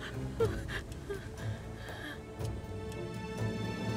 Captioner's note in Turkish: Nefes sesleri